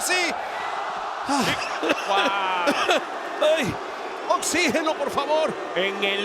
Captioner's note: laugh